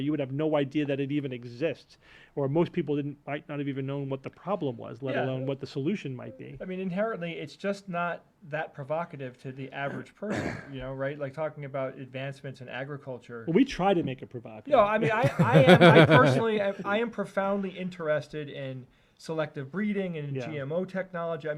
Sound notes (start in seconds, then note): 15.0 laughter